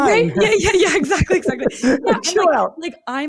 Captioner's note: both laughing